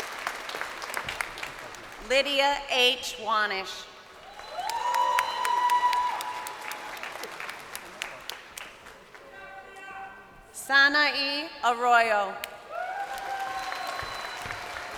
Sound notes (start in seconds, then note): 0.0 crowd applauding; 7.8 crowd cheering